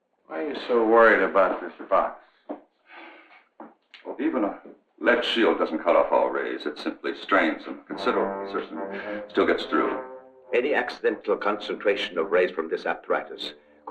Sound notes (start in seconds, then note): 3.0 sighing